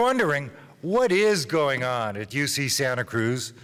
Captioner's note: none